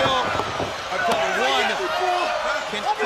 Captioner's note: crowd cheering